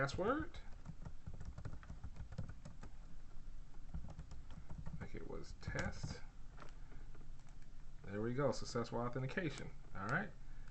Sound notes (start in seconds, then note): 0.6 typing sounds